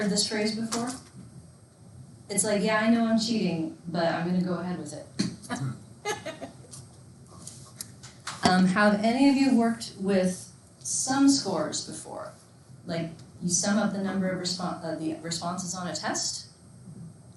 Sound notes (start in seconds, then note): 6.0 laughing